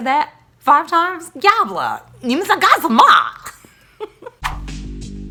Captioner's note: speaking in foreign language; laughing; whooshing